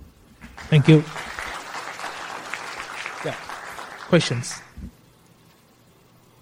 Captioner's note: applause